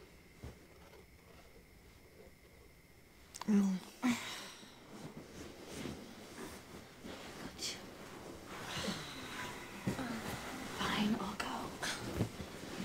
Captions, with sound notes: Oh. (sighing) Fine, I'll go.